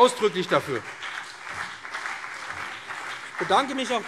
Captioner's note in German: Beifall BÜNDNIS 90/DIE GRÜNEN und CDU